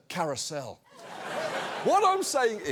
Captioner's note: audience laughs